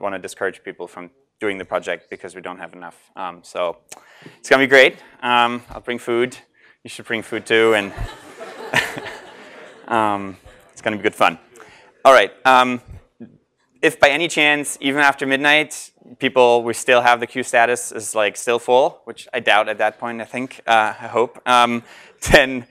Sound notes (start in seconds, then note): 7.5 laugh